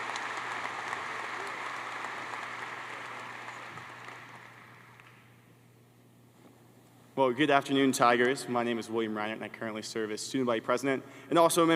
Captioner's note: applause